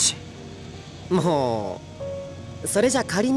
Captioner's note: sigh